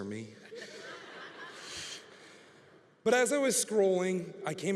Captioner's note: congregation laughing